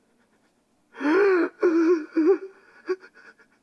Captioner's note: sobbing